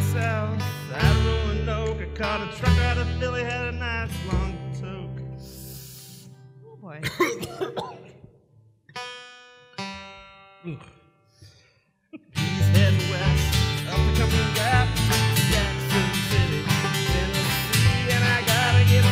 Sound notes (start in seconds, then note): 7.0 man coughs